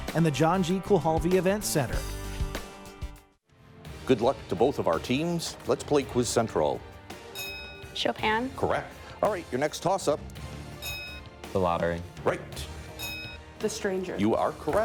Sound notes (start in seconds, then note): 3.4 uplifting music; 7.3 bell dinging; 10.8 bell dinging; 12.9 bell dinging